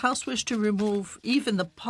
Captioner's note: speaking French